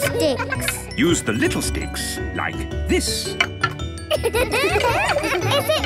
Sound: laughter

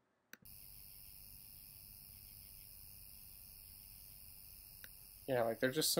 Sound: insects whirring and chirping

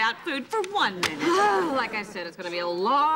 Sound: groaning

